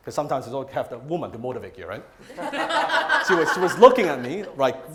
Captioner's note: crowd laughs